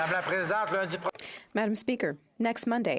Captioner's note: speaking in French